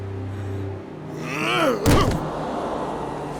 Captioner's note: grunting